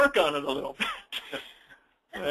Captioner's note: laughs